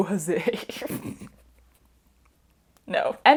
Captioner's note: snorting laughter